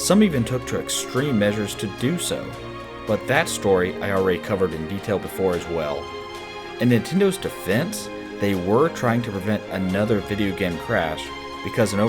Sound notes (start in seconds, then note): none